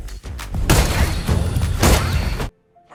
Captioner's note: gunfire